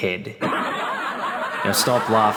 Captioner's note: laugh track